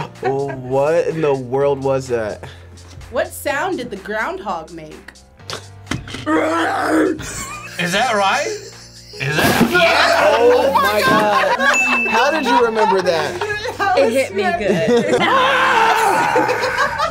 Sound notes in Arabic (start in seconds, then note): 0.0 يضحكان; 6.2 صرخات الحلقية; 9.3 رجل يصرخ حلقيًا; 10.6 الجميع يضحكون; 14.8 الكل صراخ وضحك